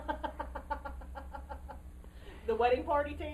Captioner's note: laughter